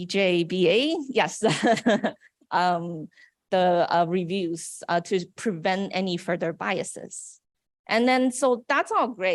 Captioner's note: laughs